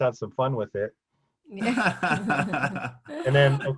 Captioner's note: laughing